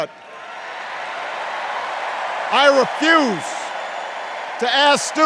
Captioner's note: cheers and applause